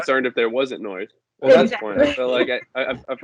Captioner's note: laughter